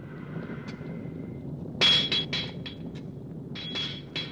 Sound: banging

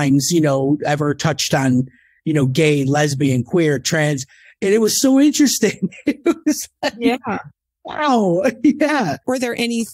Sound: laughs

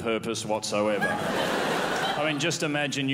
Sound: crowd laughs

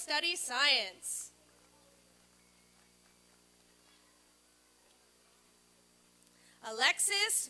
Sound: applause and cheering

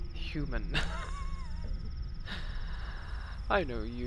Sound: laughs

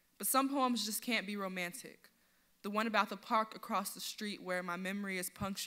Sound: none

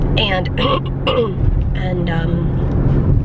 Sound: clearing throat

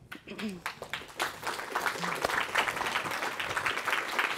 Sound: audience applauding

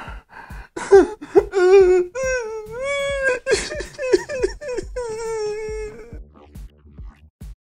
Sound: wimpering

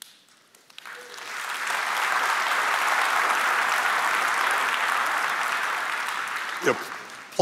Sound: applause

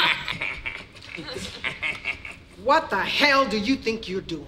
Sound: laughing

